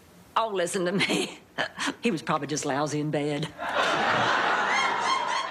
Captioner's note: laughs